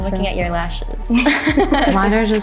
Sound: laugh

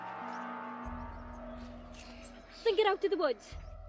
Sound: none

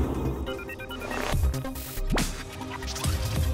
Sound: computer beeps

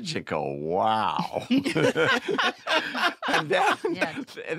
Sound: laughter

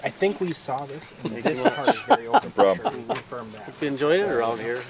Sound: laughing

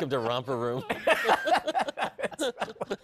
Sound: laughter

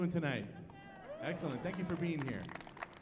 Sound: audience cheering

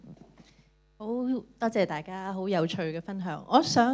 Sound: Cantonese

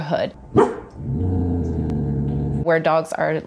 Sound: dog barking

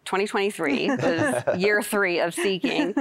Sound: laughter

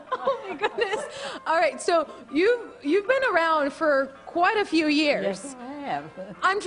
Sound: laughter

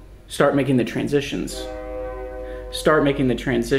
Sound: train honking

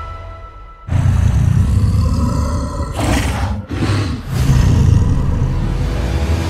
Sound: exhales

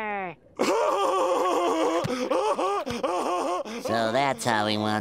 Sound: laughing

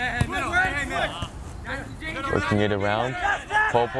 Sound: players talking and yelling

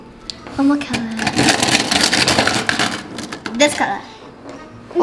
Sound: markers shuffling

